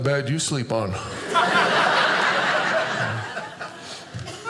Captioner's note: audience laughing